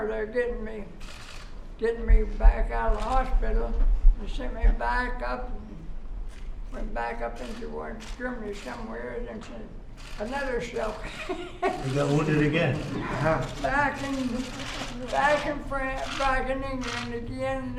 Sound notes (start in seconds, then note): 10.9 laughs